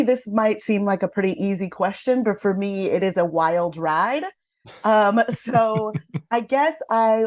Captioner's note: laughter